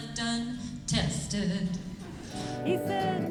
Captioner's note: laughter